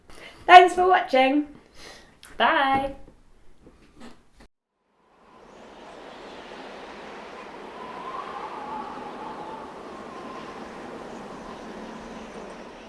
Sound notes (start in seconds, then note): 5.0 wind blows